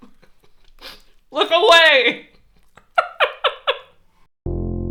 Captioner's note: violent laughter